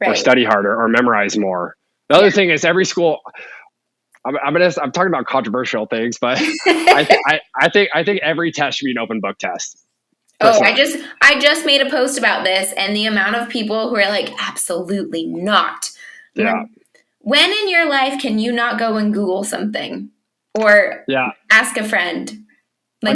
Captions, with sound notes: or "study harder," or "memorize more." The other thing is every school... I'm talking about controversial things, but... (laughing) I think every test should be an open book test. - Oh, I just made a post about this, and the amount of people who were like, "absolutely not." When in your life can you not go and Google something, or ask a friend?